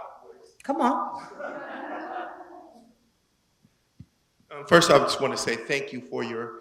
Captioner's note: laugh